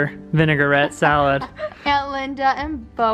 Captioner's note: laughs